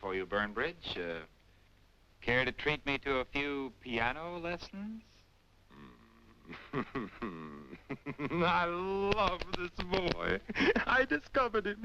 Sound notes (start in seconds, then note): 8.4 laughing